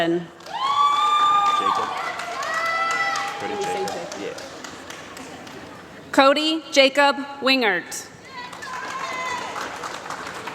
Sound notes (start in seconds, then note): 2.8 applause